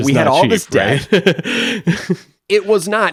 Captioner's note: laughs